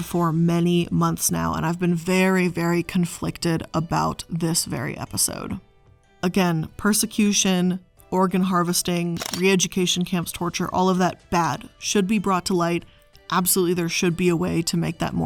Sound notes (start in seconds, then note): 9.1 camera shutter clicking